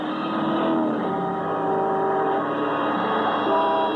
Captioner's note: horn blaring